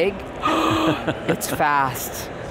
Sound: gasp

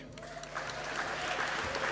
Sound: applause

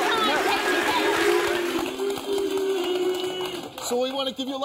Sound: audience cheering

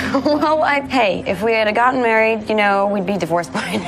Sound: laughs

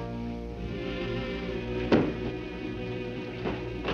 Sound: gun thuds; dramatic music

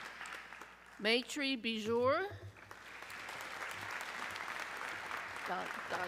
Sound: audience cheering

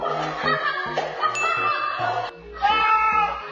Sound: laughing

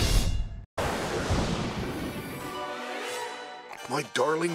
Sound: dramatic music playing; thundering, music playing on TV

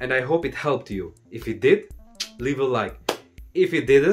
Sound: clap; click; clap

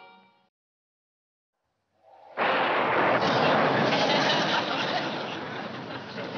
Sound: thunder

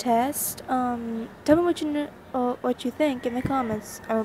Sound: stutter

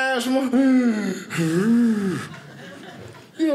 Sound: wheezing

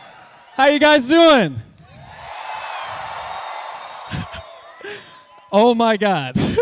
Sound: cheering

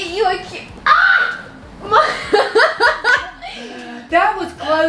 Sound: laughter

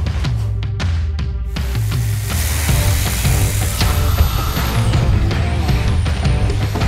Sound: upbeat rock music; tools whirring

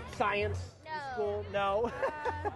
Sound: laughter

